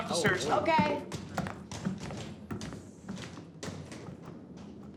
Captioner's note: footsteps banging